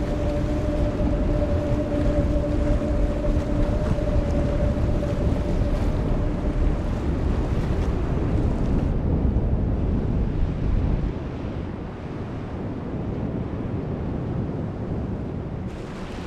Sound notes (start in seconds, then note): 9.9 water lapping; 9.9 wind blowing